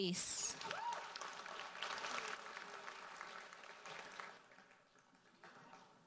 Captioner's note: audience cheers and applauds